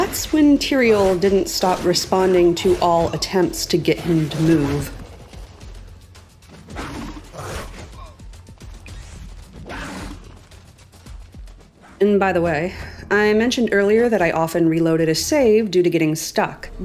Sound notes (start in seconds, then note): 4.9 drum music; 6.7 roars; 6.7 Teriel oofs; 8.2 combat alert noise; 9.6 roar; 10.4 drum music